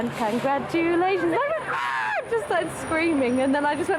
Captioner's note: screams